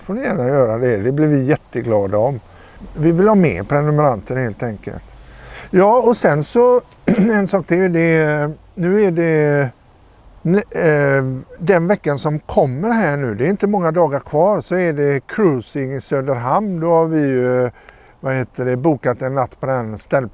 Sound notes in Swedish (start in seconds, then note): 7.0 harklar sig